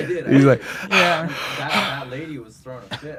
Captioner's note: heavy breathing